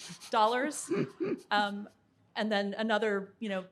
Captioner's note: group chuckling